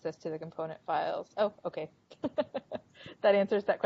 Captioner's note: laughing